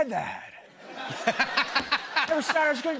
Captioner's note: laughter